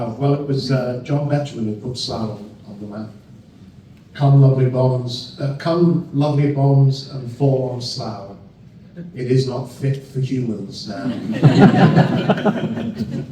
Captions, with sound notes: Well it was John Metruin who put Slau on the map. Come lovely bones and form Slau. It is not fit for humans. [Crowd laughs]